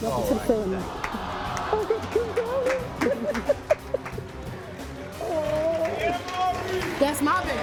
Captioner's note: audience cheers; laughing